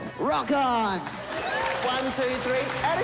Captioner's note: cheers and applause